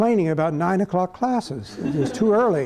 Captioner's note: laughter